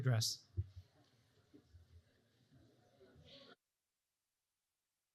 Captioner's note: audience chattering